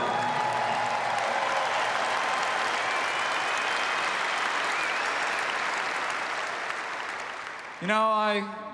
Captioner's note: applause